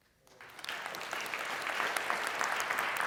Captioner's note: applause